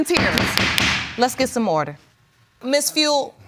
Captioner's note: bangs gavel